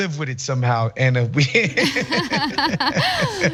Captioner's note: laugh